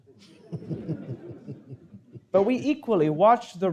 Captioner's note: audience chuckling